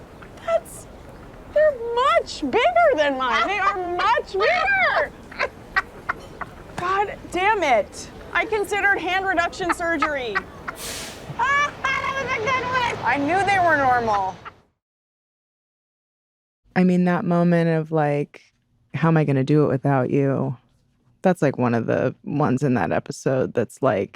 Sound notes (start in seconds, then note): 3.1 deborah laughs hysterically; 10.9 cackles